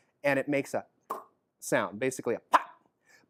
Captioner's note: popping sound